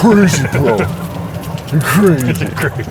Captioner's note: laughs